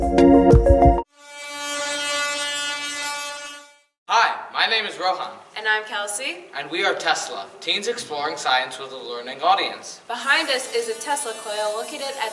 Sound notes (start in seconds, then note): 1.0 air horn